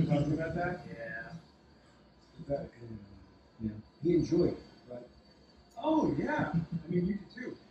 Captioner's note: dialogue on TV